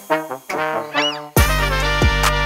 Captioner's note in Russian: Клёкот чайки